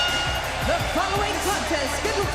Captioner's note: bell ringing